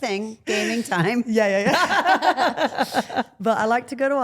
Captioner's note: Steph and Elyse laugh